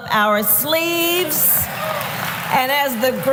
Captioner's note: applause